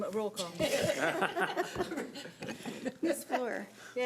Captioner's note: group laughs